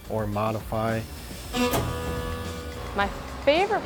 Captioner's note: machine buzzing